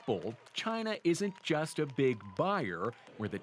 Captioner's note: cheers and Applause